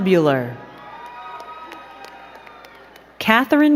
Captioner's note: crowd cheering and clapping